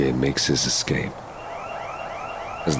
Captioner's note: security alarm triggers